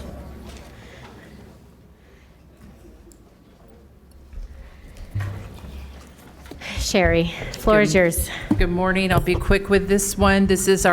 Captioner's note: laughter